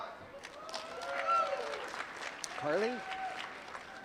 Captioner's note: applause